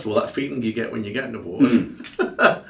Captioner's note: chuckles